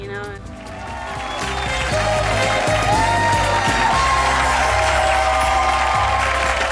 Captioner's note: upbeat music; cheering